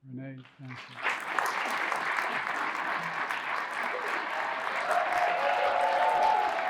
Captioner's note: audience applauding and cheering